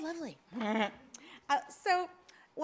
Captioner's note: laughs